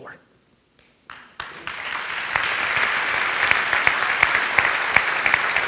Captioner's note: audience applauds